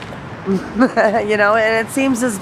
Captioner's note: laughing